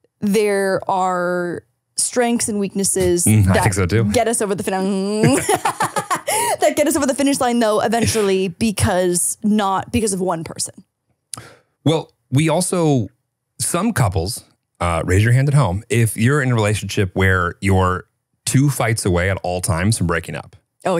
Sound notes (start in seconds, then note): 5.2 both laughing